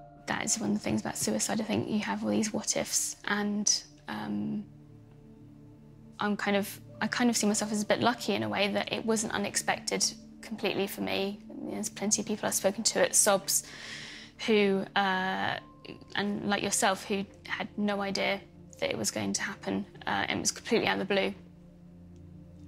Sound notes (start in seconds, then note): none